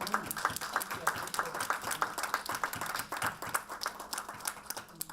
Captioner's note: audience clapping